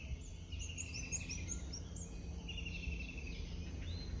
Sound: many types of birds singing

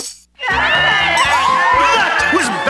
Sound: applause

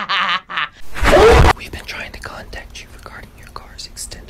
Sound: laughs; whispers

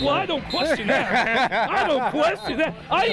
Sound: laughs

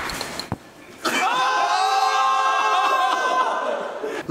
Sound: exclaiming

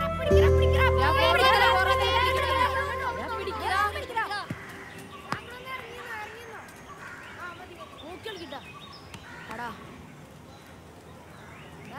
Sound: children playing

